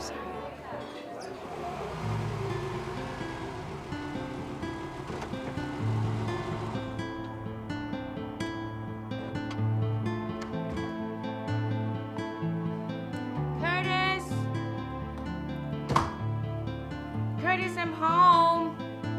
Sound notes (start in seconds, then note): 1.8 brooding music; 9.5 car door clicks; 10.8 door clicks; 15.9 door bangs